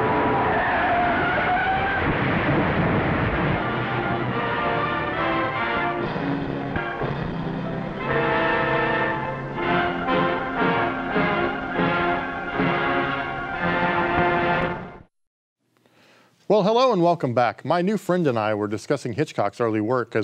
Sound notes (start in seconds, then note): 0.0 tires screeching; 2.1 thunderous crashing; 4.2 melodramatic music